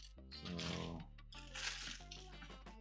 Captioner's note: paper rustling